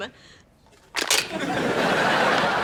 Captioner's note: can crushes; laughs